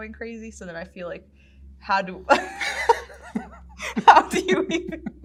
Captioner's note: laughs